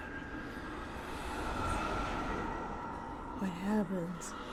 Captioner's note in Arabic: صوت الريح المشؤومة